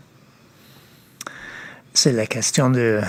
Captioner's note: speaking French